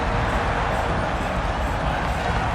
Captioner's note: trumpet sounds; crowd roars